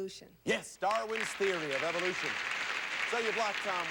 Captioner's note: audience applauding